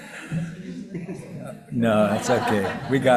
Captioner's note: participants laughing; faintly speaking